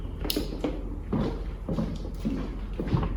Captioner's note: snap